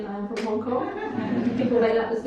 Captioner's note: audience laughs